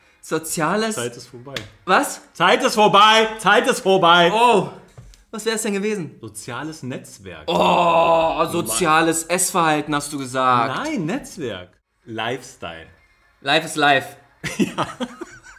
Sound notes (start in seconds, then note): 7.4 moans; 14.4 laughs